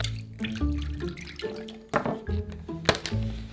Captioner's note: water pouring